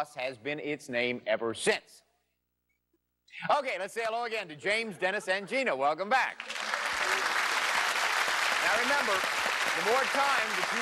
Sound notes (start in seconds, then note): 6.3 applause